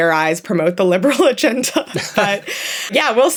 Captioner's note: both laugh